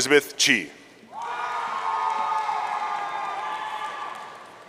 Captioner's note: audience cheering